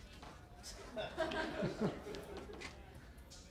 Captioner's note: laughter